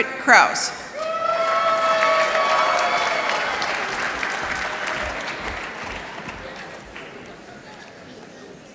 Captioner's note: applause